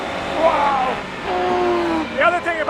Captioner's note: engine roaring